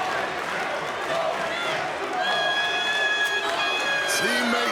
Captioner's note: crowd chanting